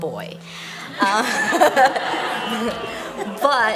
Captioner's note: laughter